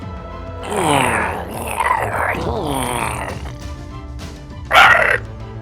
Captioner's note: growling